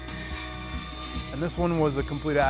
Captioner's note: bandsaw whirring quietly